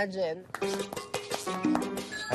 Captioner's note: applauding